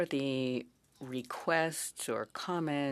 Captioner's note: speaking French